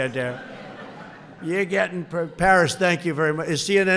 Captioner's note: laughter